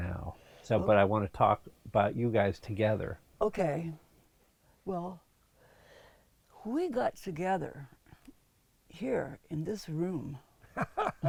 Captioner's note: laughs